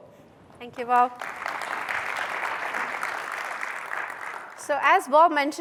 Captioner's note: applause